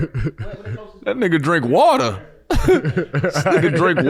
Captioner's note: laughs